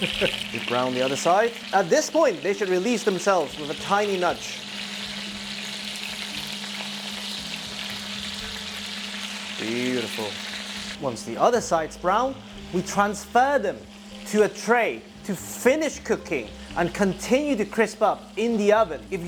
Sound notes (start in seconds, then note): 4.6 sizzling sound